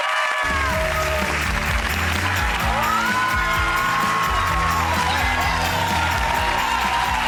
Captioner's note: audience cheers and applauds; upbeat music